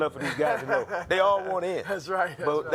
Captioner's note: laughing